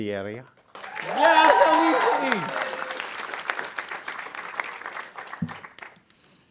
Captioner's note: audience cheering and applauding